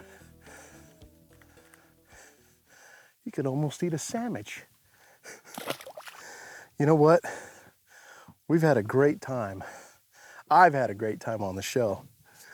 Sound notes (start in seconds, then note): 4.9 laughs